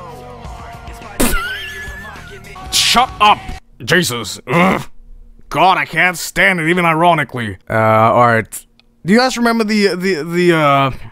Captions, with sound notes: [Laughs] Shut up! Jesus. [Grunts] God, I can't stand it even ironically. Uh, alright. Do you guys remember the, the, the uh...